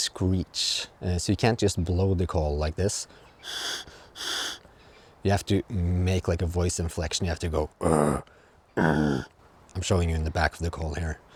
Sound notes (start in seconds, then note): 4.1 blows